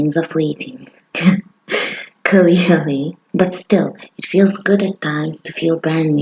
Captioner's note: laugh